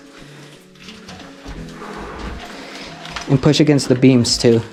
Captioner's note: shuffling and clattering